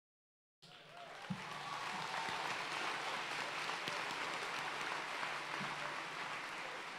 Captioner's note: audience cheering and applauding